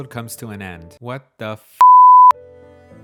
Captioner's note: beep sound